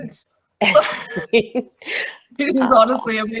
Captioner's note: laughs